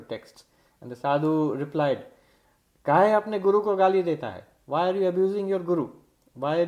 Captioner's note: hindi words